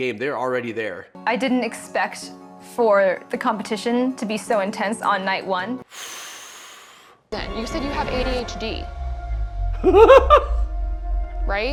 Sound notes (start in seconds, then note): 5.9 sighs deeply; 9.8 laughing